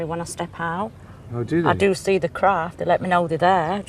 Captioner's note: voiceover